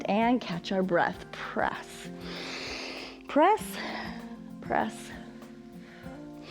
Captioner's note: inhales